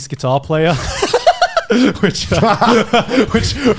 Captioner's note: laughing